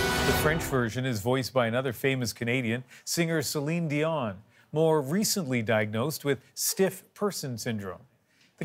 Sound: speaking French

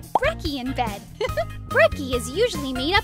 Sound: laughs

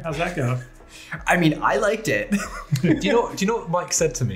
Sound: laughs

